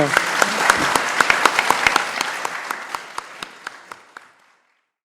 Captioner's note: audience clapping